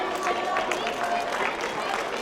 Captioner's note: applause